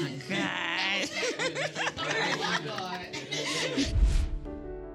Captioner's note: all laughing